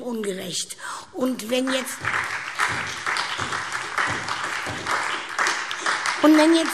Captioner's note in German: Beifall SPD und DIE LINKE